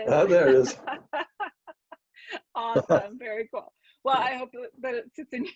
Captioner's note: laughs